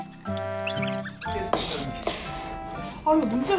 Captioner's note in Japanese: ガリ…ガリ…